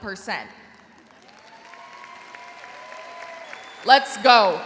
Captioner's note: crowd applauds